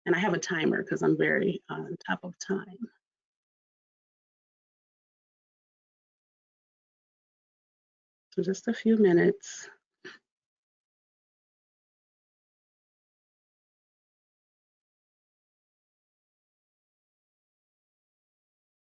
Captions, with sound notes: And I have a timer 'cause I'm very on top of time. So just a few minutes. (silence)